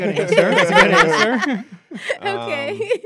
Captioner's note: laughs